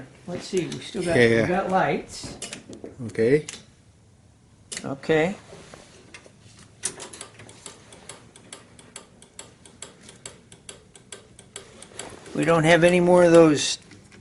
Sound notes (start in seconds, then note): 8.3 blinker ticking